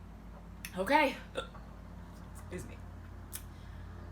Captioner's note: burps